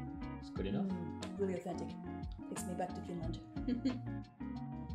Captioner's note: laughter